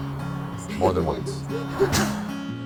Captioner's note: laughs